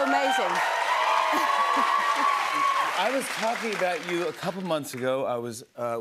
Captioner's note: cheers and applause